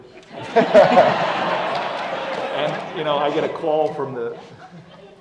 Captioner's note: laugh